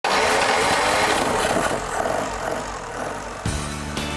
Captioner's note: engine rumbling